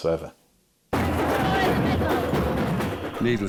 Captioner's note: beating drums; people chanting